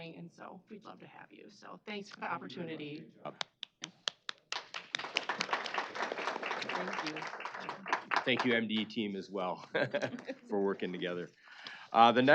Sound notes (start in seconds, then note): 4.0 applause